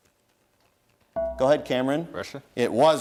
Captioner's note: dinging